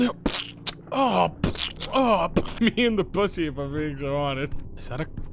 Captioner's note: makes splattering noises; splatter